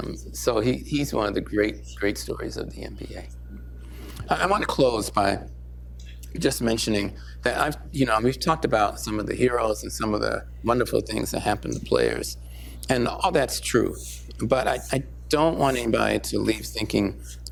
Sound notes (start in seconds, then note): none